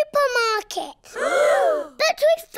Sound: all gasp

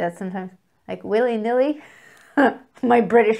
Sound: giggles

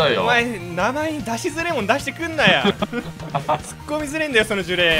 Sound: Geto laughs

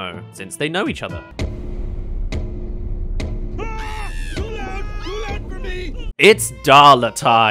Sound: bang* *Bang* *Bang* Ahhh!

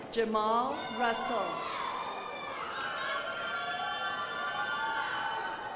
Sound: crowd applauding

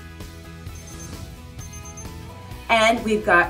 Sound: thermometer beeping

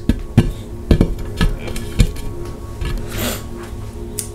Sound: knocking on glass

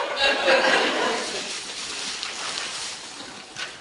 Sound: class laughs

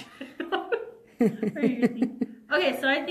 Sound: laughs

